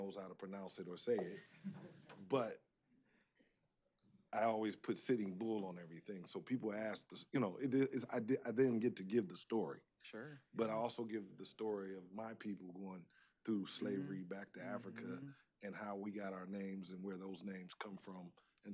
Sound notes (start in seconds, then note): 1.0 chuckling